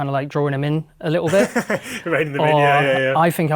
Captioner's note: laughing